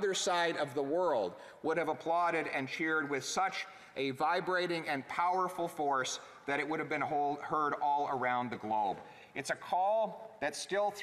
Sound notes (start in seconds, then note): none